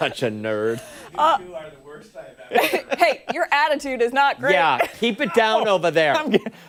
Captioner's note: laughter